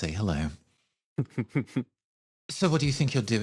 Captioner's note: chuckle